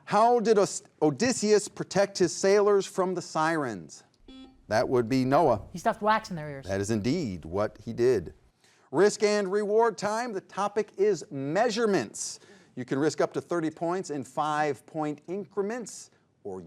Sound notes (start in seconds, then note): 4.2 buzzer beeps